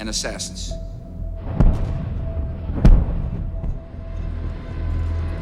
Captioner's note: distant explosions